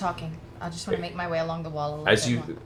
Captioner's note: none